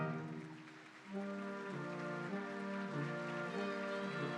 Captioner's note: audience applauding; instrumental music continues